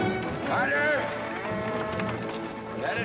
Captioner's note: dramatic music; steer mooing